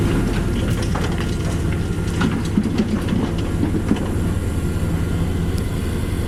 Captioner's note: asmr humm